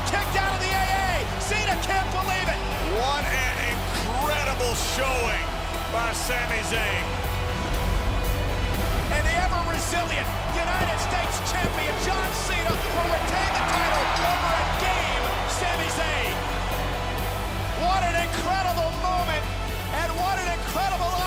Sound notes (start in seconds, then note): 15.8 bell ringing